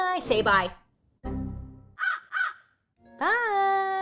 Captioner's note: crow cawing